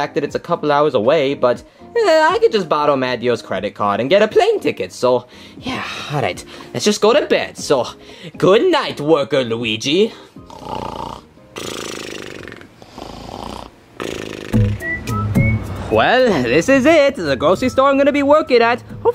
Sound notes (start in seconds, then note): 11.5 Luigi snoring; 14.8 electronic music